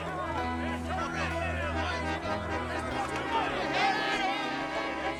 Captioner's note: men arguing